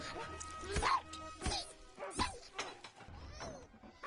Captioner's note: gnome grunting and squeaking